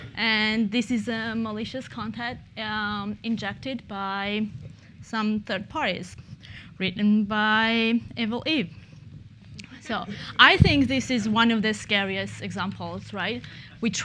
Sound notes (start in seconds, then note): 8.9 laughter